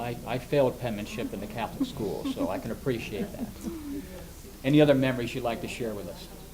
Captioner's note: laughs